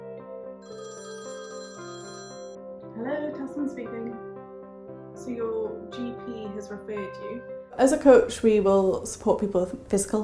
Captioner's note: phone rings